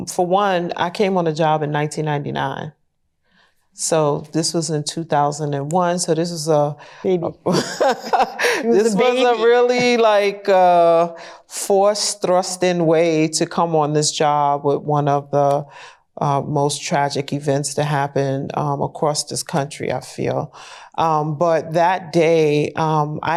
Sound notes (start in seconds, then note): 7.4 laughs